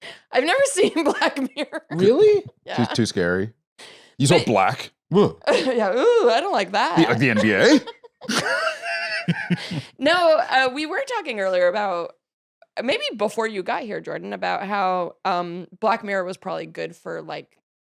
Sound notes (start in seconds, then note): 6.9 laughs